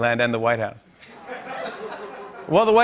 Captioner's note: laughter